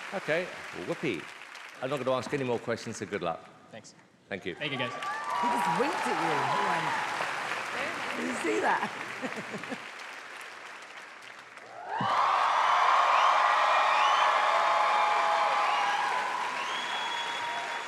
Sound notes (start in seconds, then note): 4.6 cheering; 12.2 applause; 13.2 cheering; 17.6 applause